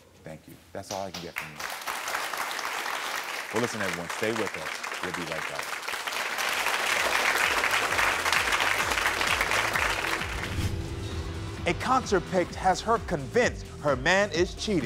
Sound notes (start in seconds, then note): 2.0 audience applauds; 6.5 audience applauds